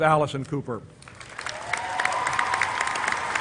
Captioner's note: applause